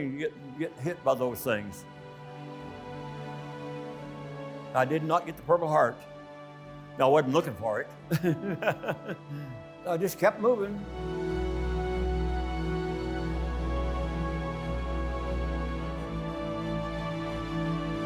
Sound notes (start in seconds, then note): 2.5 tense music; 8.1 laughing; 10.8 tense music